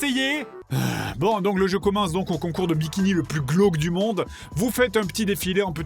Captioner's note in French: soupir